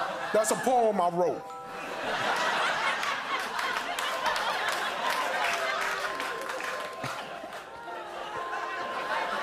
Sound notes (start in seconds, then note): 1.8 laughter